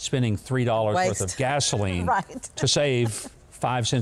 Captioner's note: chuckles